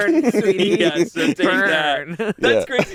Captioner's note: laughs